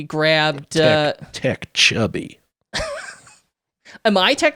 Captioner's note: chuckling